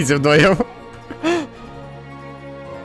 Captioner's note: laughter